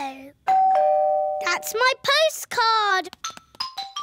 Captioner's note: doorbell rings